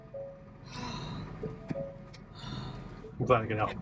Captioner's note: sighing; open door notification chiming